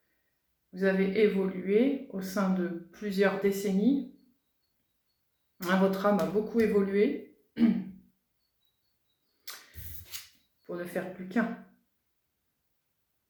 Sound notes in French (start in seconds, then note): 7.6 raclement de gorge